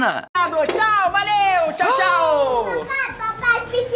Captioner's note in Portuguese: faz som de surpresa